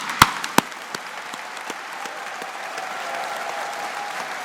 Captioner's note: audience applauding